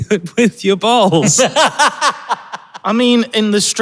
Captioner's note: cackles